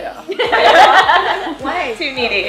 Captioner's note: laughs